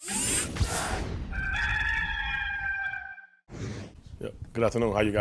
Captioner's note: rooster crowing